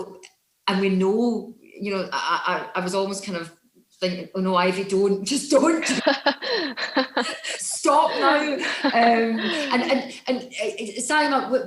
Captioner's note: laughs